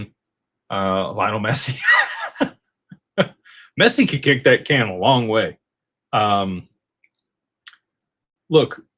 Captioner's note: laughter